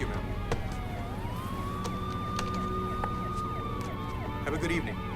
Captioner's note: sirens wailing